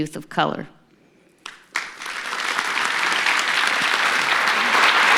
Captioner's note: applause